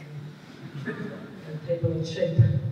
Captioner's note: laughter